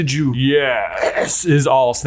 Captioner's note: coughs